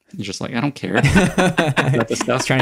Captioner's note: all laugh